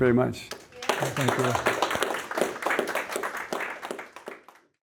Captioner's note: audience applauding